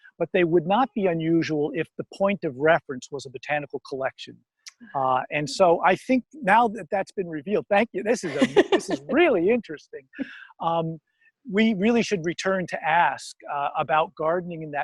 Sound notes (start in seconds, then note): 8.2 laughs